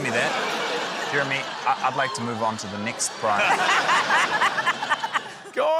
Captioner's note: laughter